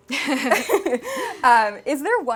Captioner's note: Alix laughing